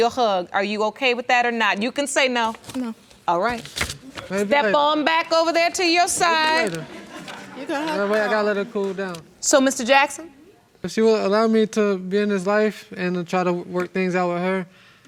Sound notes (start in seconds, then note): 6.2 audience laughs